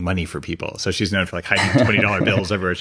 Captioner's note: laughs